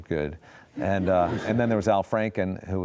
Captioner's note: audience laughs